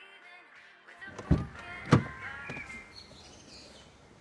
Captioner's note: door opens